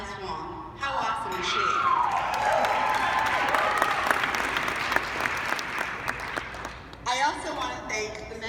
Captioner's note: applause